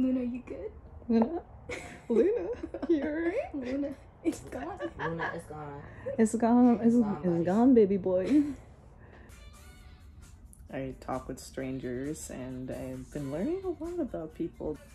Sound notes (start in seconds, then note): 1.6 laughs; 8.4 sneers